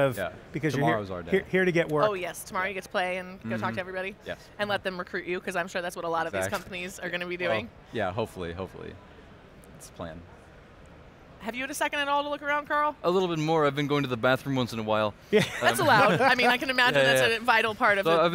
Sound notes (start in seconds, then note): 15.4 laughs